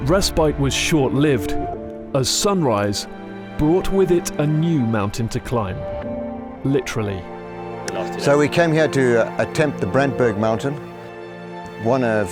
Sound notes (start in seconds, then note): 8.6 voiceover